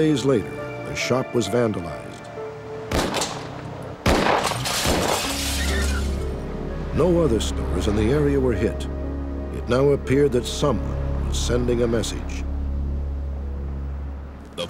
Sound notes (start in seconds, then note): 4.0 gun shots; 4.2 glass breaking; 5.2 car tires screeching